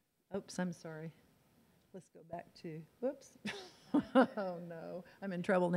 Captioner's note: laughs